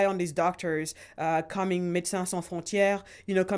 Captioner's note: speaking in foreign language